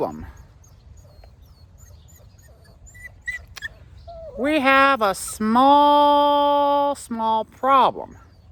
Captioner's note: Ella whimpers